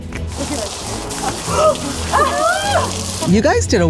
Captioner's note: water splashing; women scream